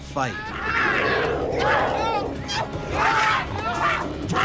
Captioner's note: shouting